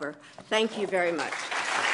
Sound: applause

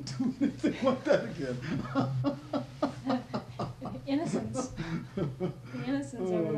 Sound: laughter

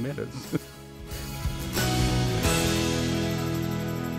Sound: laughing

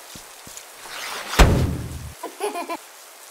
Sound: wham; baby giggle

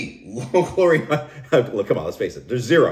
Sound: laughing

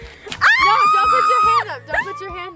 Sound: screams

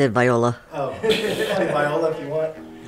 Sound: man laughs

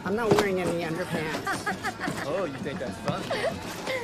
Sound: laughing

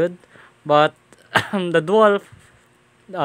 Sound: coughs

